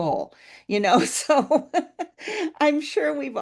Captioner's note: laughs